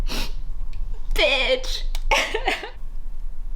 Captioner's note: sobs